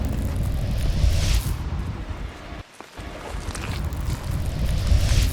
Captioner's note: none